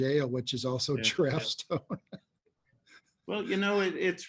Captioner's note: laughing